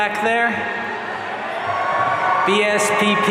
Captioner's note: audience cheering